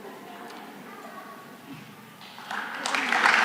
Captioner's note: applause